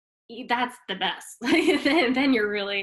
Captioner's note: chuckles